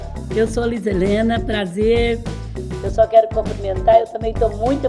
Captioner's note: speaking Portuguese